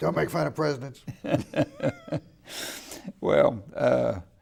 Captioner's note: laughing